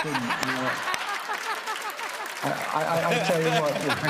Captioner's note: laughter and applause